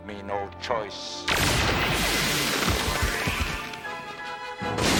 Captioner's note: freeze weapon blasts